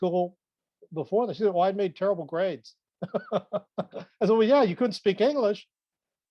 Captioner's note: laughs